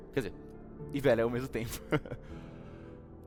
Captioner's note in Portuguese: risos